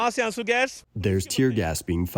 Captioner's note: through translator